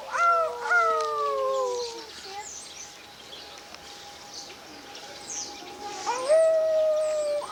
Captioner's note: kids howling at wolves